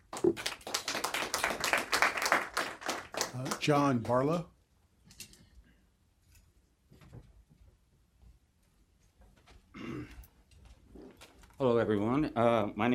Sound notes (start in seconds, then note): 3.8 applause